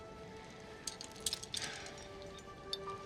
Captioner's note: sighs